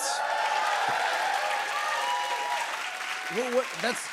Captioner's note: cheers and applause